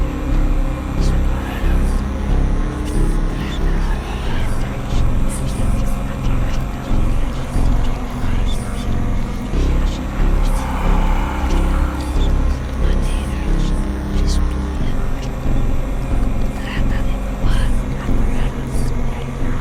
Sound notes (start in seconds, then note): 0.6 multiple voices whispering